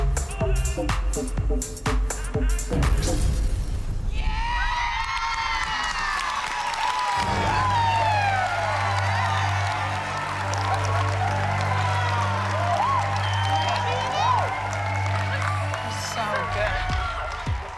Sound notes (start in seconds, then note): 2.5 song ends, explosive pop, glass breaking; 5.4 applause and cheering